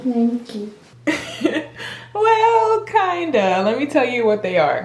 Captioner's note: chuckling